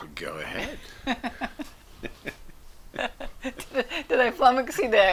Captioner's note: laughing